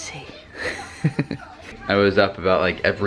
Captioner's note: laughs